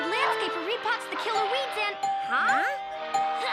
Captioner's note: doorbell rings